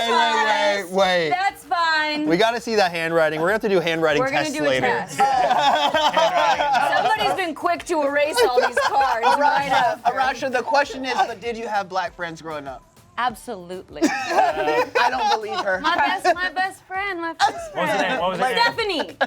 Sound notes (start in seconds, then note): 4.9 laughs; 14.0 laughs